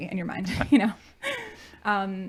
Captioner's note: laughing